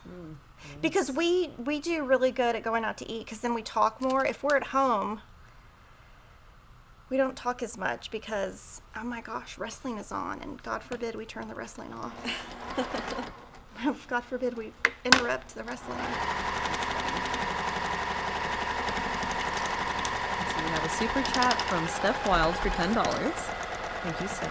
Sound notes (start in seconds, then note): 12.0 laughing; 16.3 sewing machine hums